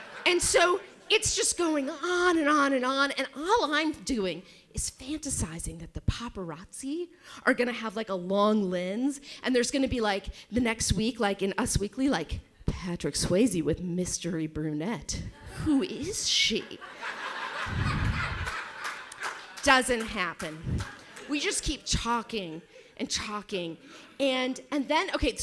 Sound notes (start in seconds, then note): 0.0 audience laughs; 16.6 audience laughs